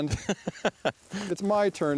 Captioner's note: laughs